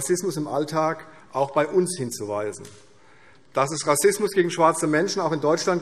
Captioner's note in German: none